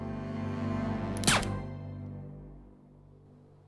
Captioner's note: fires gun